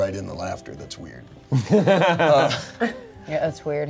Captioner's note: laughs